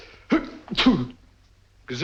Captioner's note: sneezes